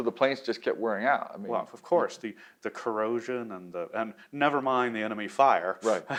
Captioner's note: laughs